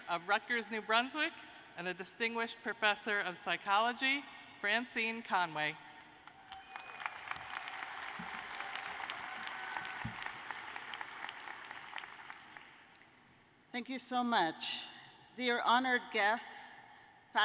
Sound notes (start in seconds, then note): 6.3 cheers and applause